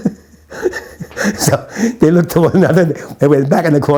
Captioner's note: laughs